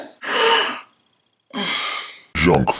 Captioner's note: exclaiming in surprise